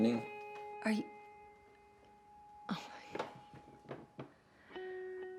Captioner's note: sighs